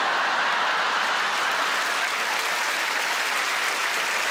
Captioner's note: audience applauds